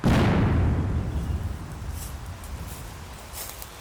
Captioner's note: cannon fires